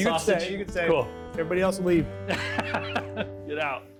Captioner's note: laughs